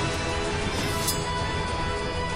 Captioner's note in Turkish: Kılıcı Kınına Koyma Sesi